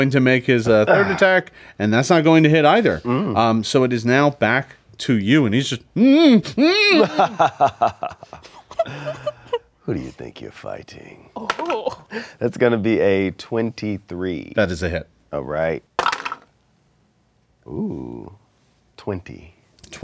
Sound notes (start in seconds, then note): 6.5 laughs; 12.0 dice clatter; 16.0 dice clatter